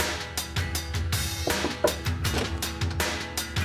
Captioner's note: knocking on door